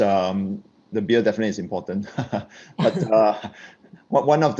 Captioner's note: laughs